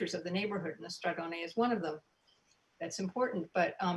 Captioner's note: speaking in foreign language